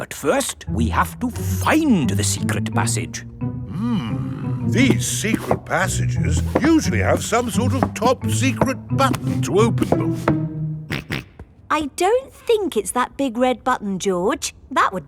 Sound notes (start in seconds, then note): 10.9 snorts